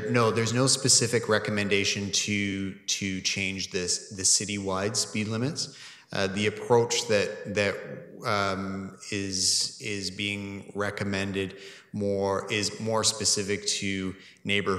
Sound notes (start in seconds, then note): none